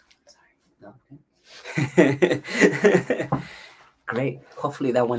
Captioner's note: laughs